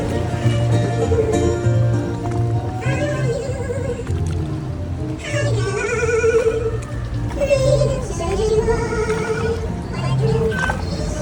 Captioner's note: singing birds